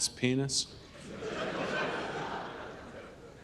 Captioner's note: audience laughs